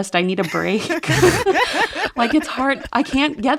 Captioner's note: laughter